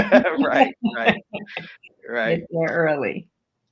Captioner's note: laughing; laughs